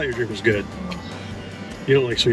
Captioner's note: groans